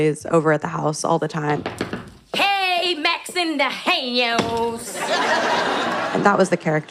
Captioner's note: audience laughter